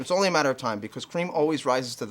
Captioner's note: beeping